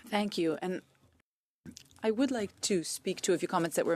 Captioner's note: speaking French